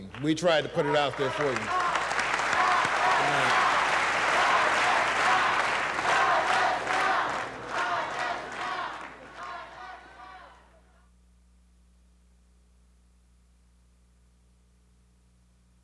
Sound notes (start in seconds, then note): 2.1 audience applauding; 2.3 audience members chanting